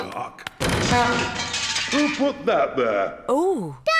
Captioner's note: crashing